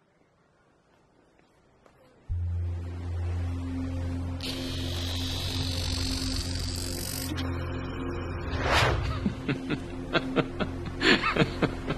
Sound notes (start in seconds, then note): 3.5 buzzing; 6.9 static; 9.0 laughter